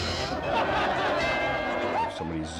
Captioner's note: cymbal crashing; bell dinging